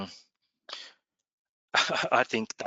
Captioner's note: laughs